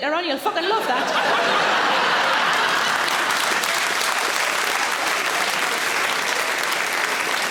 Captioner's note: audience laughing; audience applauds